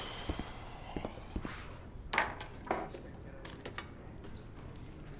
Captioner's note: whispering conversation